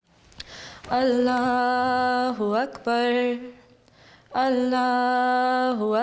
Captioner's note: praying in Arabic